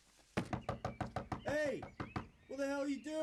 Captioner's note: Rob knocking